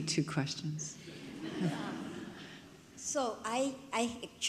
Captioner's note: audience laughs